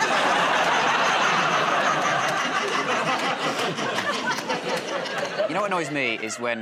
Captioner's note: laughter